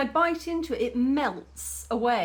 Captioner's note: none